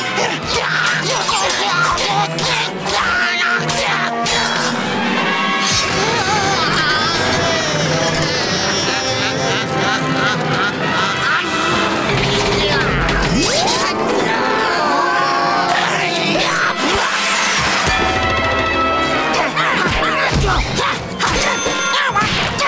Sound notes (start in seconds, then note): 0.0 grunting; 8.7 laughing; 19.3 grunting